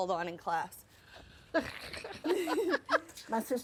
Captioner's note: both laughing